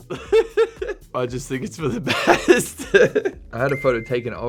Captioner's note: laughing